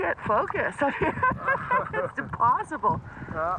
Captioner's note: laughing